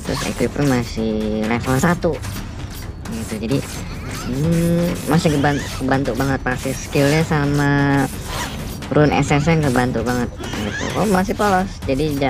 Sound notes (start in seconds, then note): 3.9 grooaarr